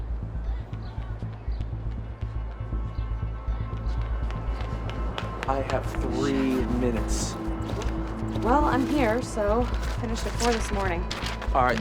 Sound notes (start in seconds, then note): 3.8 footsteps clacking